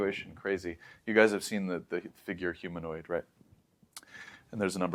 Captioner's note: lips smack; inhales